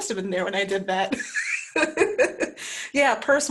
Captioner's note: laughs